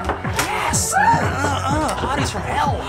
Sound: grunts

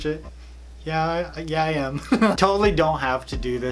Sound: laughs

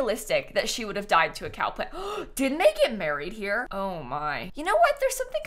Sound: gasps

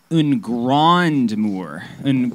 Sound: speaking in frenglish

